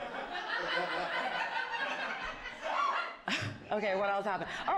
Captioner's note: audience laughing